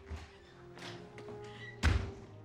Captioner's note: slam!